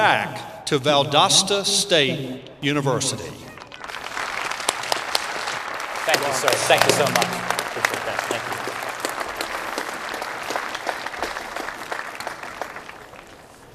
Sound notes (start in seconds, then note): 3.7 applause